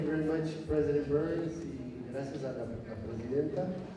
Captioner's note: non-english speech